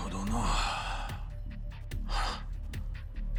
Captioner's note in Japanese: ため息